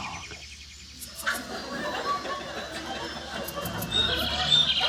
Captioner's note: audience laughing